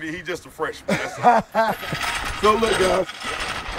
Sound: laughing

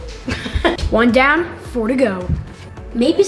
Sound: laughs

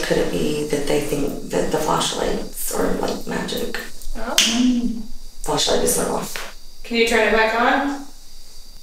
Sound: snaps

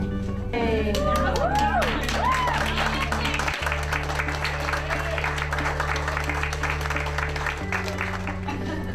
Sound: applause

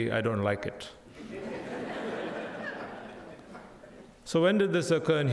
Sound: crowd laughing

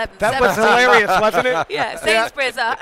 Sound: laughter

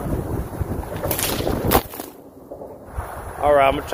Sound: whip cracks

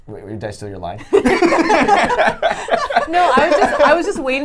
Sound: laughs

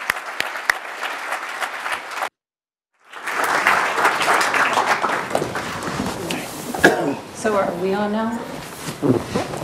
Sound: applause

